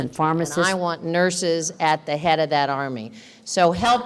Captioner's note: voiceover